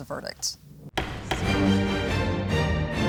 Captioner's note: dramatic music; gavel banging